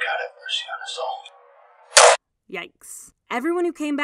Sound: gunshot bangs

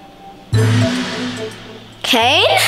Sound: gong clanging

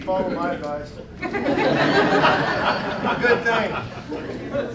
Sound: laughter

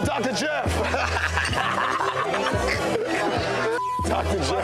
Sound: both laughing; beep

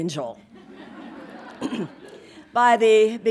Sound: audience laughing

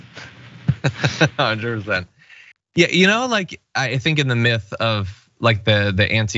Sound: laugh

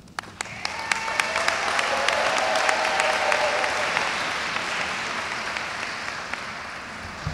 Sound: audience applauds; audience cheers

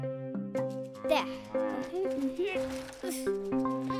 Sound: grunting; playful music

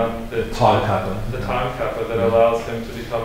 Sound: foreign language

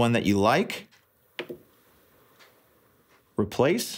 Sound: click

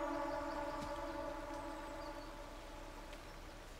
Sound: birds singing

